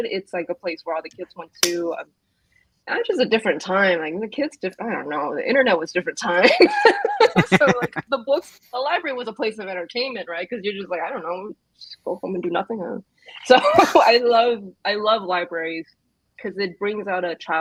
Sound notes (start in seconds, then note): 6.7 laughs